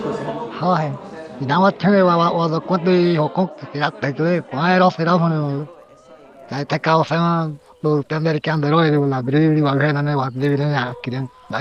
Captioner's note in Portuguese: fala em Karajá